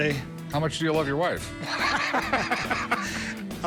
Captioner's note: laughs